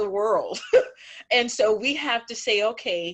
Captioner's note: chuckling